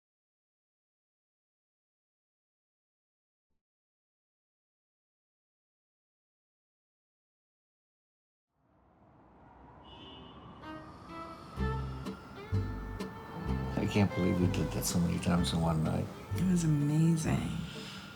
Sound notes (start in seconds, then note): 9.4 traffic din; 10.6 relaxing violin instrumental